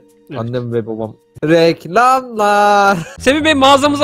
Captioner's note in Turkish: Bağırarak